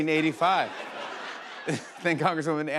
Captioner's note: laughter